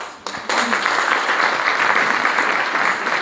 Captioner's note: applause